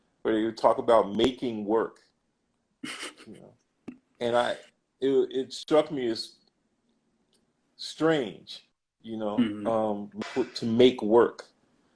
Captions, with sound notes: where you talk about “making work” (laughs) You know, and I it, it struck me as, strange mm-hmm You know, to “make work”